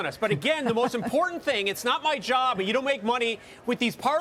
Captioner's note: laughter